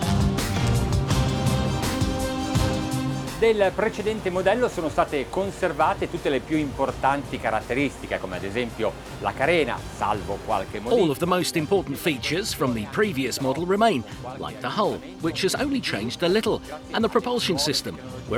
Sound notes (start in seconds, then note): 0.3 upbeat pop music; 3.6 speaking in foreign language